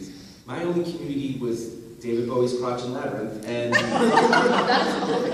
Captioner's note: laughter